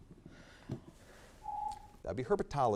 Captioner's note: timer beeps